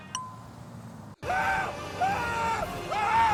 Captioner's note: screaming